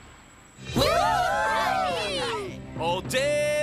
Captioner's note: cheering